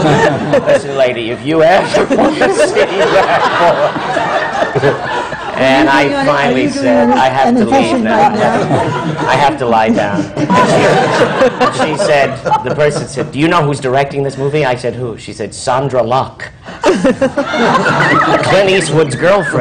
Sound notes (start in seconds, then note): 4.2 he laughs again; 8.4 laughter